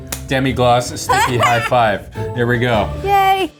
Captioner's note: laughing